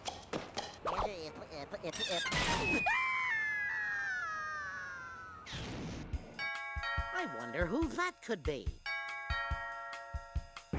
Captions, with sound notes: [stuttering] [Porky screaming] [doorbell ringing] I WONDER WHO THAT COULD BE.